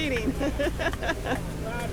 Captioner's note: laughing